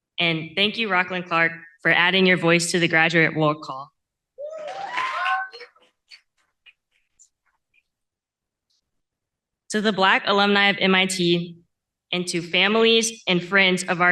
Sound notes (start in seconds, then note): 6.1 cheering